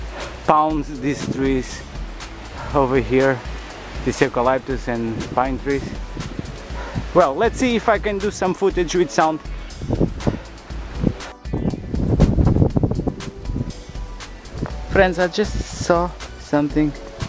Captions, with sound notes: beat this trees.. over here... this eucaliptus and pine trees. Well, let's see if can do some videos with sound [wind ] Friends, I just saw something